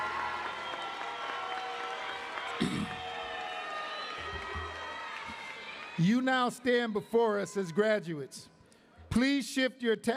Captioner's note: cheering and applause